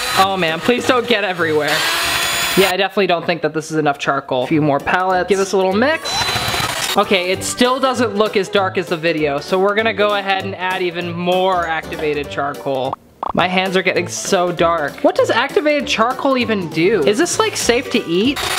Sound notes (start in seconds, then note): 0.0 drills whirls; 1.4 drill whirls; 6.1 drill whirls; 13.2 bubbles popping